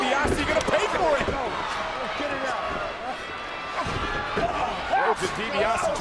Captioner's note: body thudding; fighters grunting